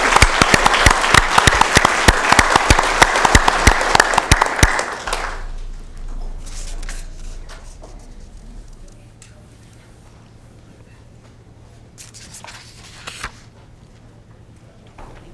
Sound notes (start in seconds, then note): 5.4 applause